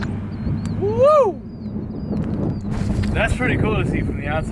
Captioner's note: exclaims